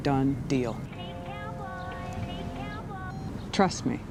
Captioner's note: phone ringing